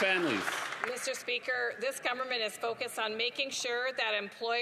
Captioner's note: some applause